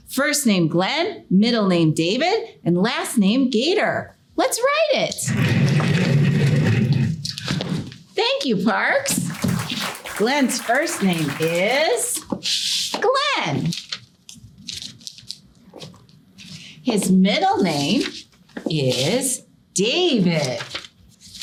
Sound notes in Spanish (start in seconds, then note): 5.2 raspado de pizarra; 9.1 la audiencia aplaude